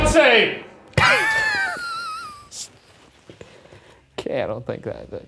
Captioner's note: chuckling